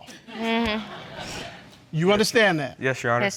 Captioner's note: audience chuckles